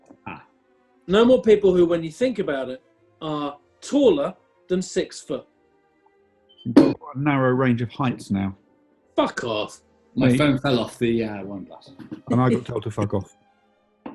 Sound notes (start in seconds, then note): 6.4 thud; 11.8 giggling